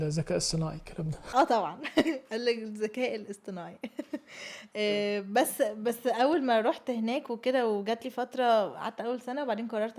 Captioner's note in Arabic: ضحك